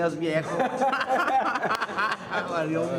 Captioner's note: risas